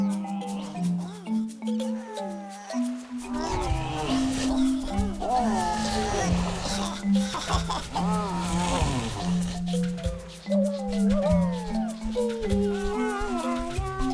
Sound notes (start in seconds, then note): 3.0 all creatures struggle noises